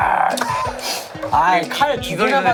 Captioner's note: Tertawa